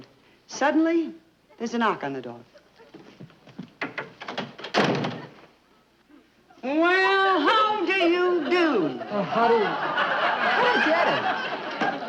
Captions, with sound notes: Suddenly, there's a knock on the door. (door slamming shut) Well, how do you do? (audience laughing) - Well, how do you- (audience laughing) - Forget it!